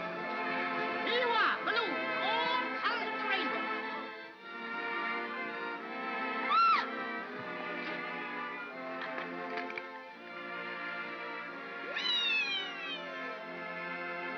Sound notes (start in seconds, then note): 4.1 upbeat sentimental music; 6.4 yelps; 7.8 upbeat sentimental music